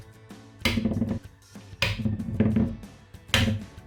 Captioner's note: crushing eggs